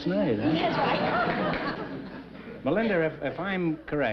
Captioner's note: chuckling